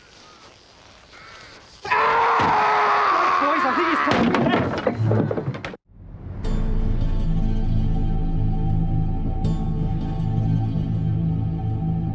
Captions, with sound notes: (Catesby screaming) Right, boys, I think it's time we left.